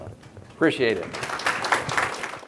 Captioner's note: audience clapping